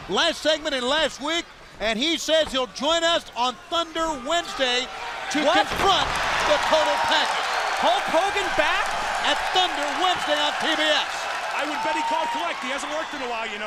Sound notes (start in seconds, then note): 8.9 crowd cheering